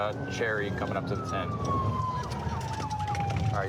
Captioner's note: sirens